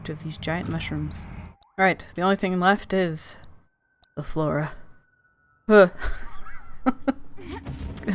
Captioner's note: laughs